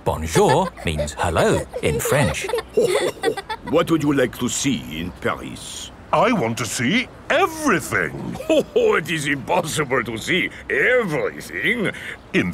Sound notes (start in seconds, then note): 0.0 snorts; 3.0 chuckles